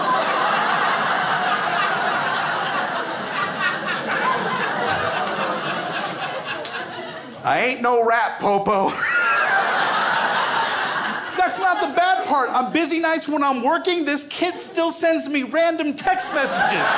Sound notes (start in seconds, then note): 0.0 crowd laughs